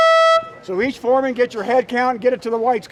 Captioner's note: air horn